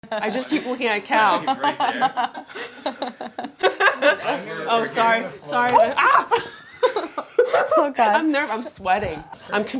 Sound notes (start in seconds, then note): 1.4 both laughing; 5.8 yelps; 6.2 both laughing